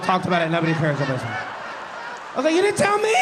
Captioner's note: audience laughing